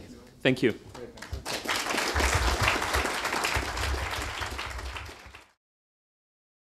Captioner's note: applause